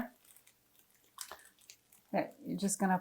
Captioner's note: polythene squeaking